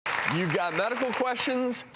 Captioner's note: applause